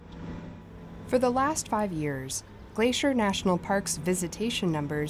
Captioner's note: voice-over